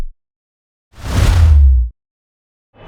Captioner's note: whooshing